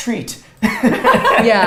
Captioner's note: both laughs